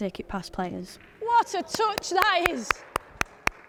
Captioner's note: clapping